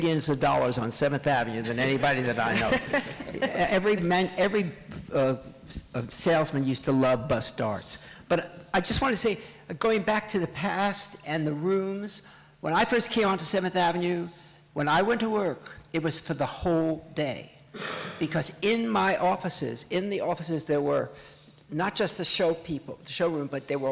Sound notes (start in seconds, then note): 1.6 laughter